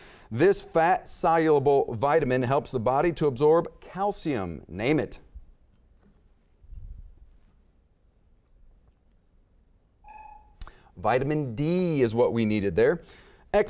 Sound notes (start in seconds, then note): 10.0 buzzer beeping